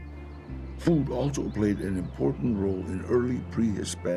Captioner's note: in English